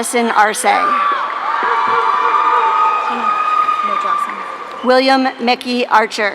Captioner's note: audience cheering